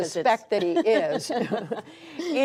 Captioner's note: laughter